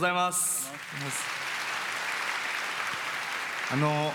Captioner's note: applause